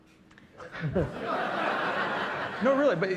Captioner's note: laughter